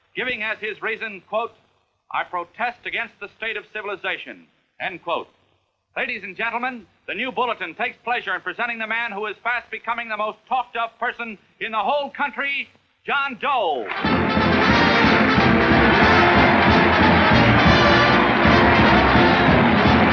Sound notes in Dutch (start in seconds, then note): 13.8 applaus; 13.9 orkestmuziek